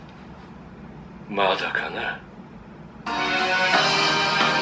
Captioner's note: Attack on Titan Japanese audio